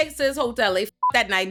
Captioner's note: beep